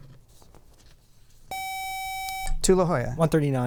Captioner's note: buzzer